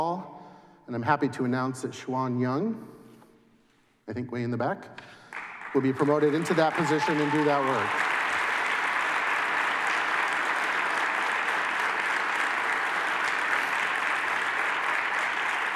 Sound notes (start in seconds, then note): 8.3 applause